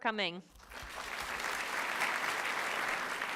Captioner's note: applause